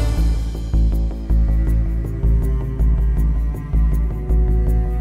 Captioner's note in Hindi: none